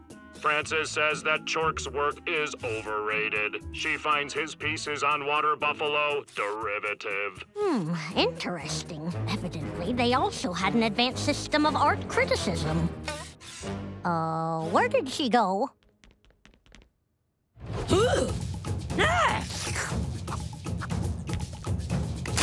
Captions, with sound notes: - Frances says that Chork's work is overrated. She finds his pieces on water buffalo derivative. - Hmm, interesting. Evidently, they also had an advanced system of art criticism. Uh, where did she go? - [gasping] [percussive music]